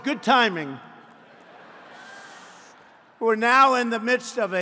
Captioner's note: laughter